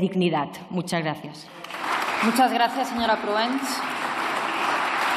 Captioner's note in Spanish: Aplausos